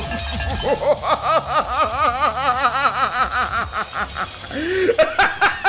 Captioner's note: laughs in disbelief